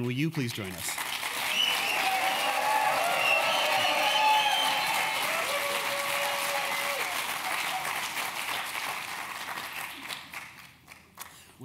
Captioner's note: applause